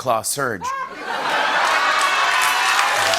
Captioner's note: laughter, cheers, applause